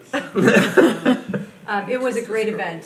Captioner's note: people laughing